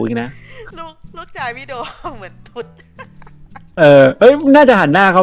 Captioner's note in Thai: หัวเราะ